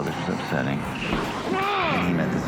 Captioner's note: grunts